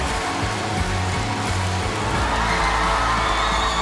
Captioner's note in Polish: krzyki publiczności